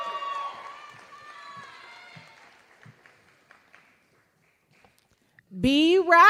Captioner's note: applause